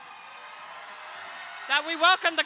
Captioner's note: crowd cheering